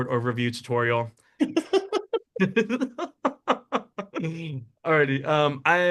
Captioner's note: laughing